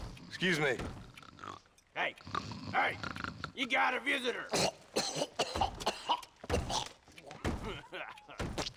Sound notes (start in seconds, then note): 4.3 coughing